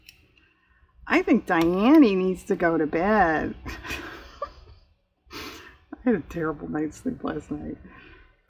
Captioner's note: laughs